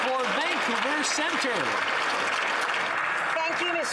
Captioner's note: some Applause